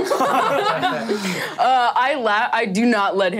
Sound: all laughing

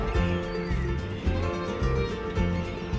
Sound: gulls crying

